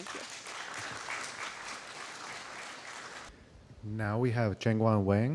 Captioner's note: applause